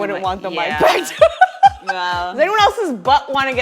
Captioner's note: laughs